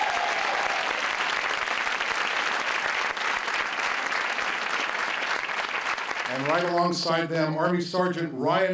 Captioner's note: cheers and applause